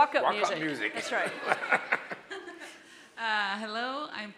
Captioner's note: all laughing